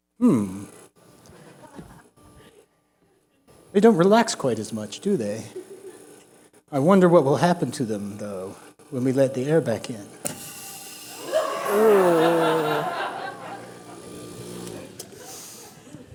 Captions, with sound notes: Hmm. They don't relax quite as much, do they? I wonder what will happen to them, though, when we let the air back in. [LAUGHTER]